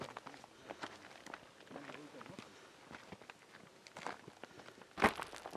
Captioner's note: non-english speech